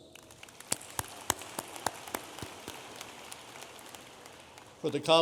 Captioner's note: audience applauding